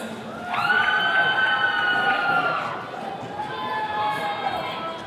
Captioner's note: attendees cheering